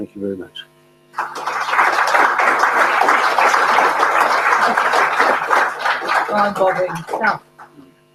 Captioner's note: applause